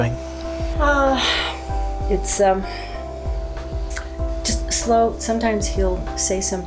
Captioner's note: audible sigh